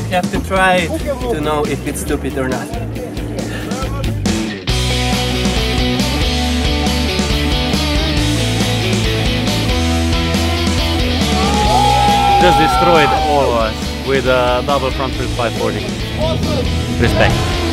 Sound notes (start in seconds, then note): 4.0 rock music; 11.2 cheering; 17.5 rock music